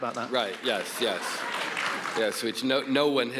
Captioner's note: audience applauds